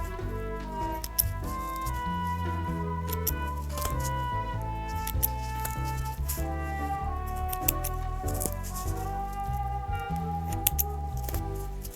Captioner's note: snips snipping and foam scrunching